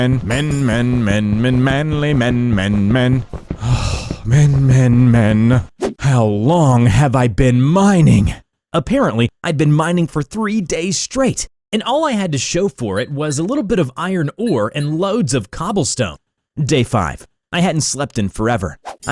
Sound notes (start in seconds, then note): 3.6 sigh